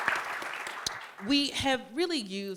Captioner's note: applause